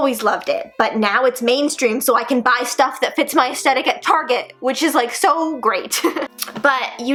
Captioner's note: giggles